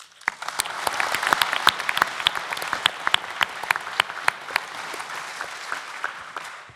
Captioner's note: applause